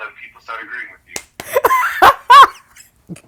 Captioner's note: laughs